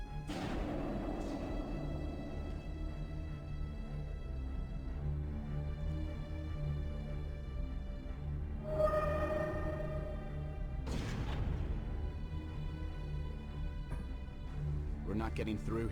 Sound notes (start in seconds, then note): 0.2 explosion; 3.9 explosion